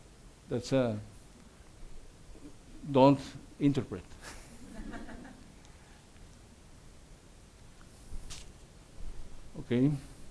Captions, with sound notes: Don't interpret. (audience laughs)